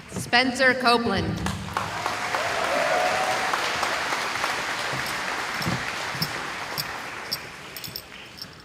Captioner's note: cheering